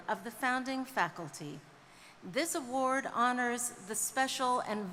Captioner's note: none